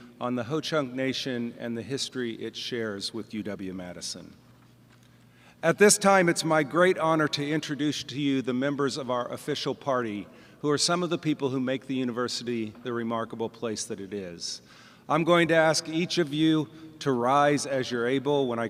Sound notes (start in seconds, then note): none